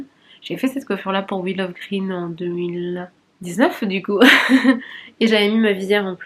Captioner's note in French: rires